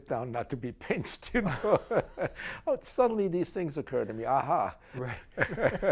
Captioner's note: laughs